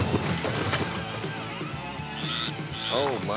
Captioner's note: frog chirping